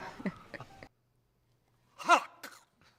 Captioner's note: chokes